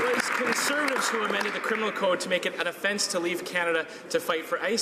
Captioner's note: some Applause